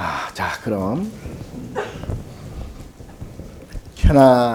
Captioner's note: speaking Korean